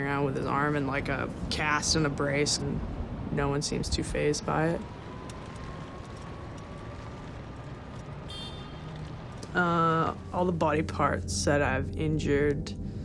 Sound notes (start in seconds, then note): 6.0 traffic noise